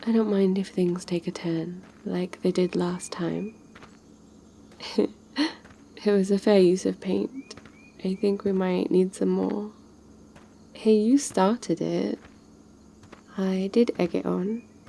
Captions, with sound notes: I don't mind if things take a turn... like they did last time *laughs* it was a fair use of paint I think we might need some more hey you started it I did egg it on...